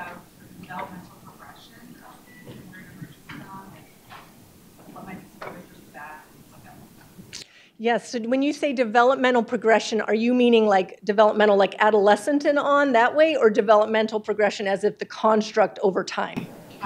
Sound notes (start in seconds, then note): 5.9 speaks faintly